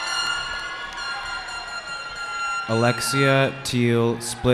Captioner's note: cheering